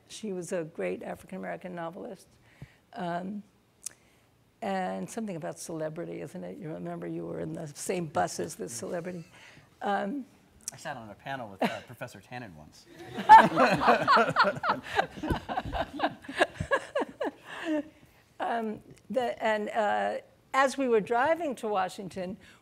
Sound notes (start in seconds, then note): 13.0 laughs; 13.0 audience laughing